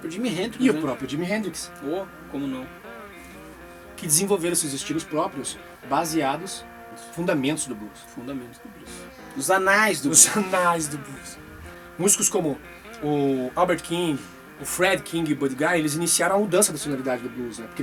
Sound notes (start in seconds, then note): 10.9 laughs